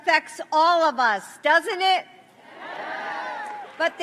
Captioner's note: applause